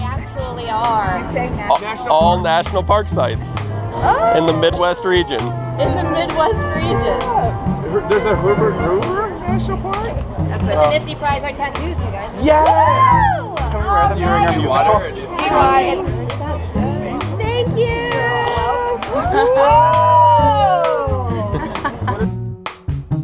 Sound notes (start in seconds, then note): 12.9 yelling and cheering!